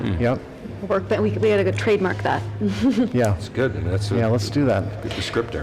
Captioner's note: laughs